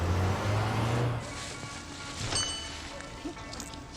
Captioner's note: doorbell dings